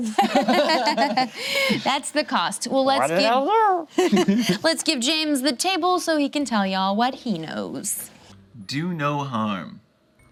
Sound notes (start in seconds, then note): 0.0 group laughs; 4.0 laughs